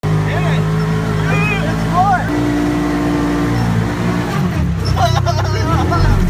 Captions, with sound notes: - Hit it! - Just floor it! (engine revving) Whoa!